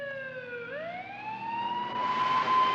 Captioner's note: Polis sireni ağlıyor